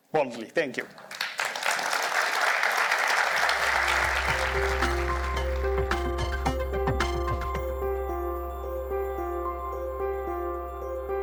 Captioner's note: applause